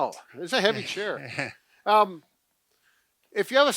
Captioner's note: chuckles